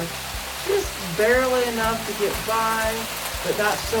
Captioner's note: loud rainfall